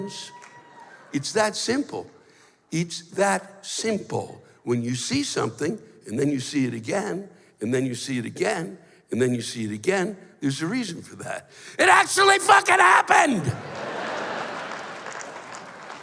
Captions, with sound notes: It's that simple. It's that simple. When you see something, and then you see it again. And then you see it again. And then you see it again. There's a reason for that. It actually fuckin' happened! [laughter]